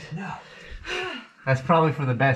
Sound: sigh

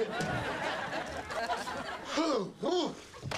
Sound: sighs loudly

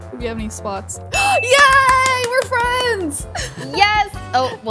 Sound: gasps

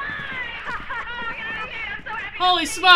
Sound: laugh

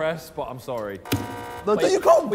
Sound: buzzer beeps

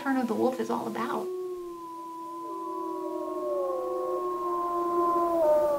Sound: wolves howling

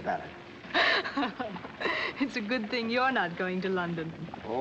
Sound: giggles

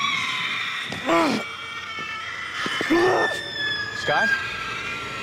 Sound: Scott groans

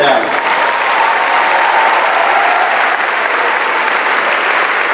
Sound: applause

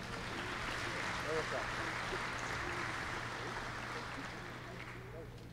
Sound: applause

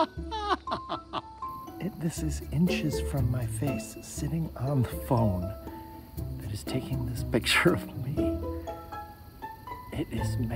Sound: laughter

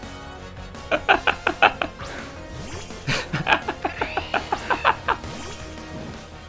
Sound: various sounds of laughter

